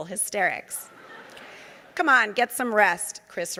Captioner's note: audience laughing